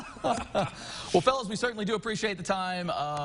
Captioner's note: laughing